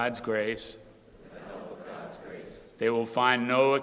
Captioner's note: crowd repeating